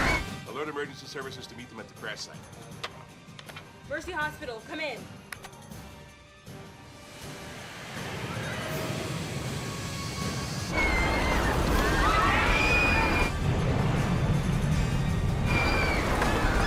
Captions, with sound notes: ALERT EMERGENCY SERVICES TO MEET THEM AT THE CRASH SITE. MERCY HOSPITAL, COME IN. [SCREAMING]